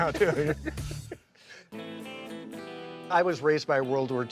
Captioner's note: John laughing